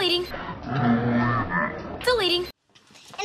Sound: menacing voide

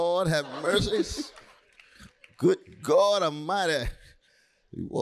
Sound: laughter

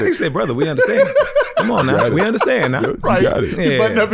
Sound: laughs

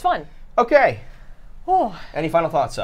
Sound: sighs

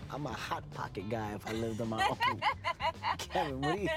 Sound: laughs

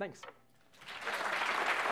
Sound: applause

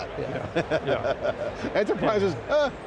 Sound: laughing

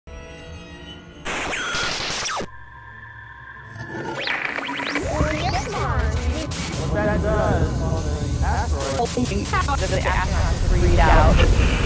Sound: sound Effects

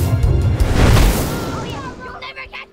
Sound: children shouting; child's voice

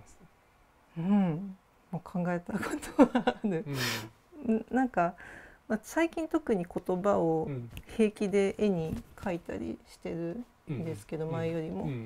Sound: laugh

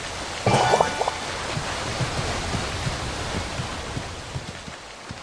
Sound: waterfall sound; steps

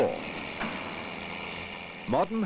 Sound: sound of machinery

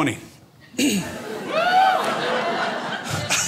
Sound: crowd

